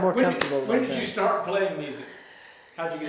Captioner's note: claps